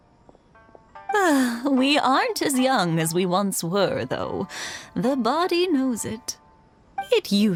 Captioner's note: sigh